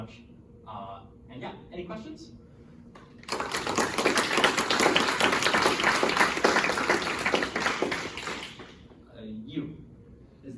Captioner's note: applause